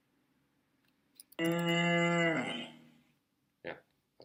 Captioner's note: cow sound